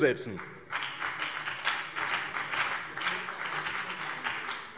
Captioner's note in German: Beifall BÜNDNIS 90/DIE GRÜNEN und CDU